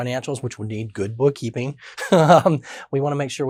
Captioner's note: laughs